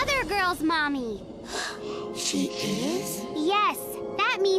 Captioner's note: Eileen gasps